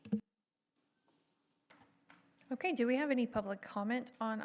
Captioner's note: lapse in audio